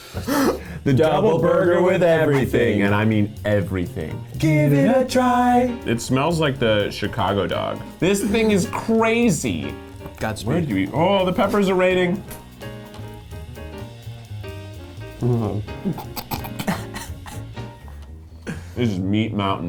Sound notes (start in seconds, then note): 0.0 laughing; 12.5 jazzy music; 15.2 chuckling